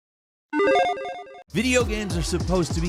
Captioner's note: logo beeps